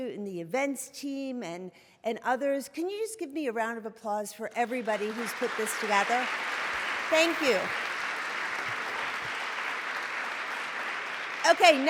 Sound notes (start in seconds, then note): 6.3 applause